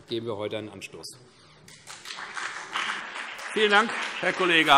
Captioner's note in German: Beifall CDU und BÜNDNIS 90/DIE GRÜNEN